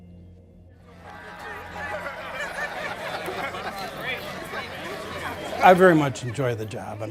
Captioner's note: general chatter